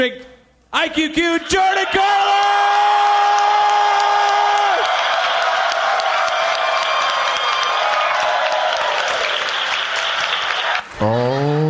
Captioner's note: audience applauds